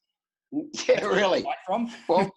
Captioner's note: laughs